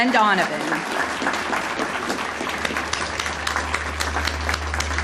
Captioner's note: audience applauding